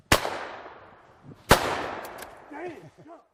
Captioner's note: booming